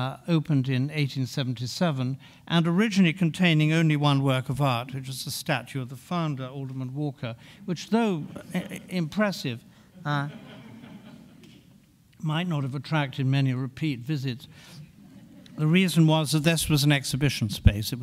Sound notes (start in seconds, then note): 10.0 audience laughing